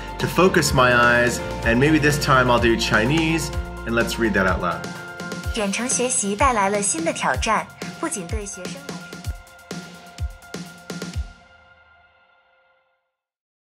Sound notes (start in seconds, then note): 5.6 speaking Chinese; 9.2 upbeat music